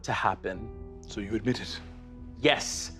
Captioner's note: quietly